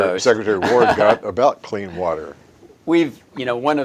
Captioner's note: chuckles